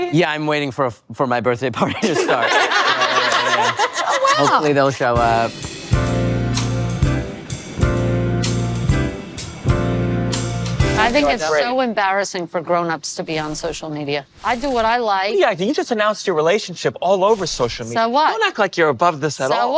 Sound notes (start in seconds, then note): 1.9 all lauhging; 5.0 jazzy music